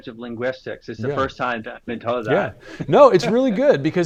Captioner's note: laughs